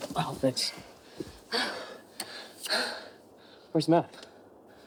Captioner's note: heavy breathing